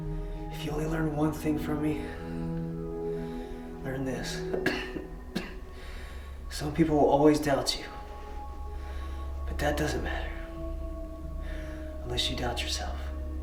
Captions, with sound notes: - If you only learn one thing from me, learn this. (coughing) Some people will always doubt you, but that doesn't matter, unless you doubt yourself.